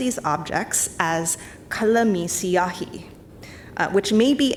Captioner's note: speaks in foreign language